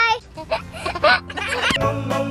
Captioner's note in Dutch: baby giechelt